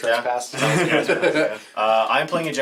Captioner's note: all laugh